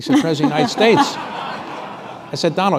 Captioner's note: laughter